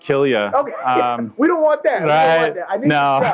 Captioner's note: laughs